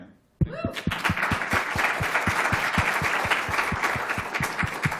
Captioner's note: applause